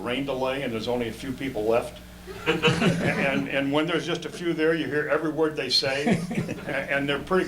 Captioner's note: laughter